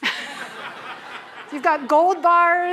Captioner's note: laughter